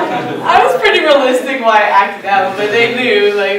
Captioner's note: laughing